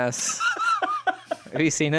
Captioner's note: laughs